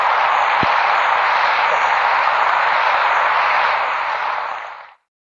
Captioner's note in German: Beifall